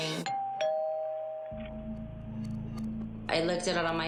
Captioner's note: doorbell rings